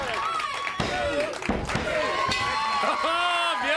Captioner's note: crowd chatter